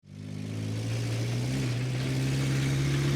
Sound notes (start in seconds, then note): 0.1 car revving